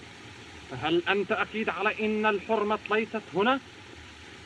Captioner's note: speaking Native Language